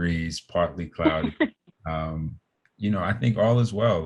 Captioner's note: chuckling